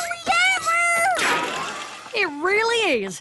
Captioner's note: boing